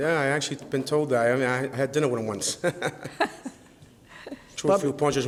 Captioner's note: laughs